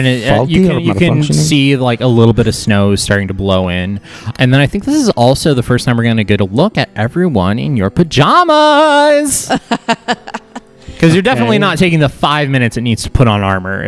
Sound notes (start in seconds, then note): 9.4 laughs